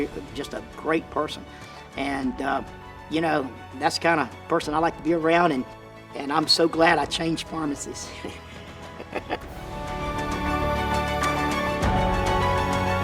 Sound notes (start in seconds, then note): 8.2 laughing; 10.1 orchestral music